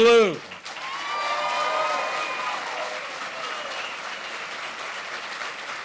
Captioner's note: applause